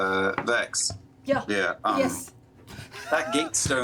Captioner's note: accent still off